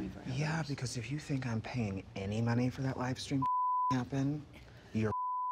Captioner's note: beep